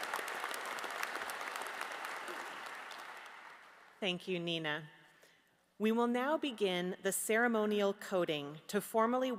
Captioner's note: applause